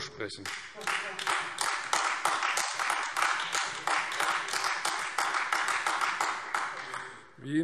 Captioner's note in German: Beifall Freie Demokraten und AfD